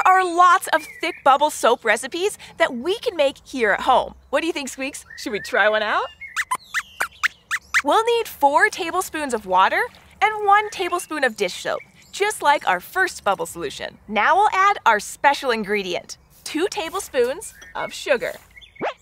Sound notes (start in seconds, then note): 7.4 squeaks squeaks; 18.7 squeaks squeaks